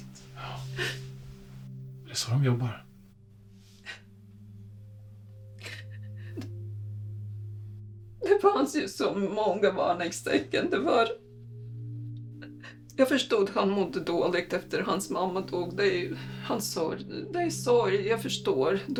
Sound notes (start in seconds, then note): 0.0 threatening ambient music; 5.6 holding back tears